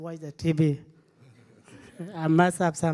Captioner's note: audience laughing